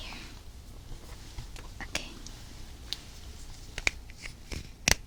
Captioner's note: cap sound